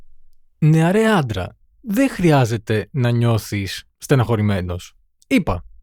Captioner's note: translating in Greek